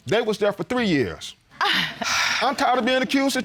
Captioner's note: gasps, chuckles